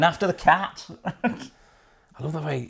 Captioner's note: chuckles